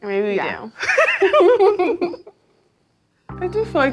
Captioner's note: laughing